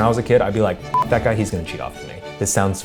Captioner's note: beep